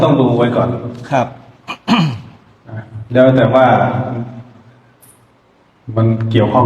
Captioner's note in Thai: เสียงไอ